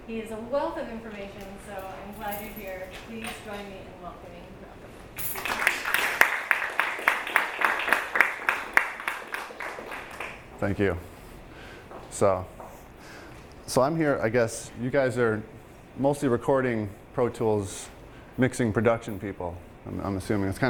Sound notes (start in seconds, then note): 5.3 class applauding